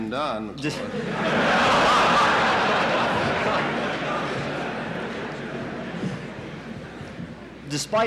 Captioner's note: laughter in the courtroom